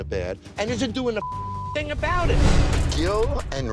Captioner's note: beep